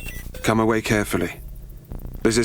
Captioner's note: beeping